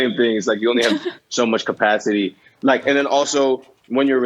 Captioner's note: laughter